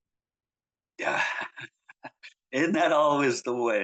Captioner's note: laughs